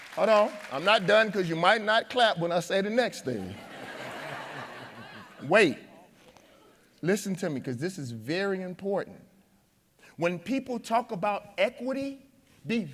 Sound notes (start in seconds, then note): 3.4 audience laughing